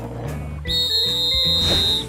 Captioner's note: whistle blows